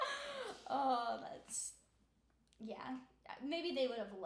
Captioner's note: laughing